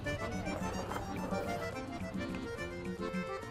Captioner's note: slurping